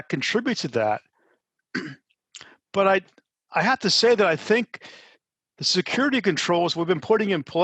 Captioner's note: cough